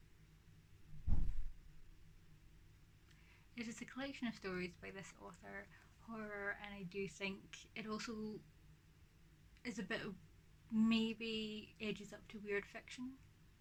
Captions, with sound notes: [thump in background] It is a collection of stories by this author. Horror. And I think it is also maybe edges up to weird fiction.